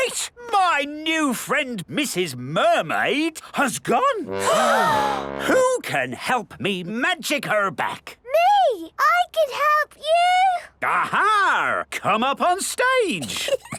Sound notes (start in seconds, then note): 4.3 all gasp